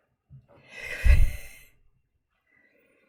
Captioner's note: exhales